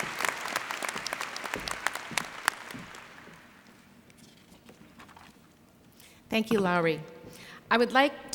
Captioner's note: applause